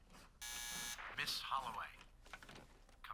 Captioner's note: buzzer